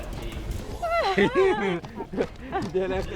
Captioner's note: laughs